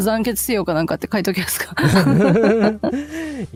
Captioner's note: laughter